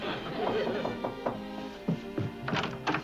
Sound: knocking

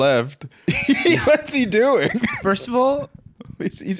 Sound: laughing

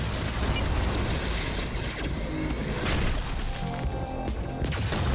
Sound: lasers firing; shots exploding; intense electronic music

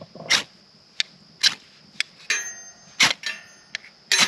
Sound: fire sparking

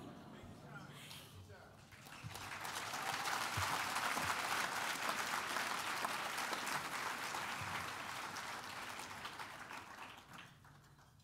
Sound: applause

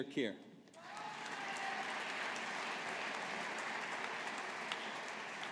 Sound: audience applauding

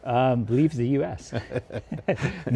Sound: laughs

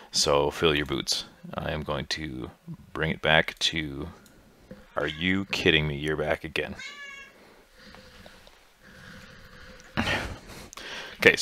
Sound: meow

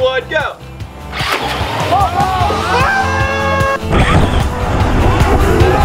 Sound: upbeat, lively music; engine revving; group cheering

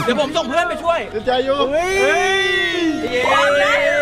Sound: mocking

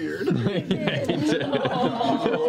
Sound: laughter

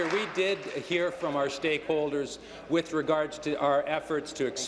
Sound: applause

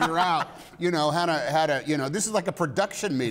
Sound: laughter

